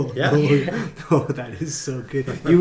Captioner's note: laughing